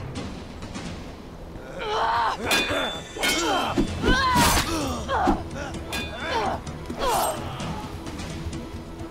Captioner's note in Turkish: Çarpışma sesleri